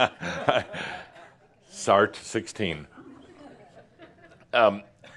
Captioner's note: chuckling